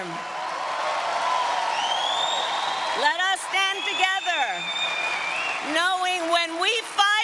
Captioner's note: applause